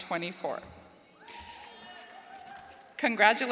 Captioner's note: cheers